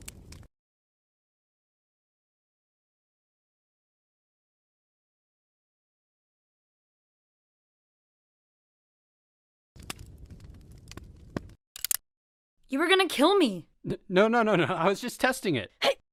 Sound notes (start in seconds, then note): 11.8 gun clicks